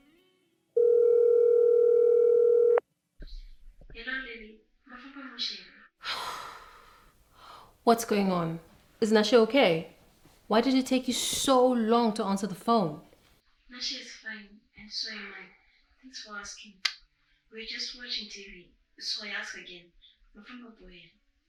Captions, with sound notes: [dialling tone] Hello Lily, you guys travel safe? What's going on? Is Nashe okay? Why did it take you so long to answer the phone? Nashe is fine... and so am I... thanks for asking We're just watching TV, so I ask again, did you travel safe?